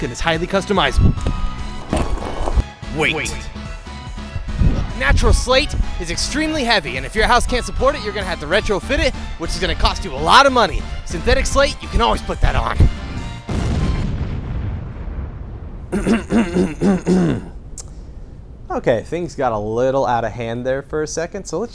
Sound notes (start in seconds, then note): 13.4 explosion; 15.9 clears throat